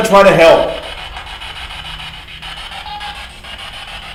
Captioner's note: static buzzing